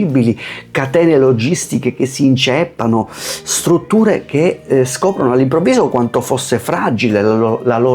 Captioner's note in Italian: sbuffare